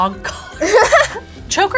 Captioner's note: both laugh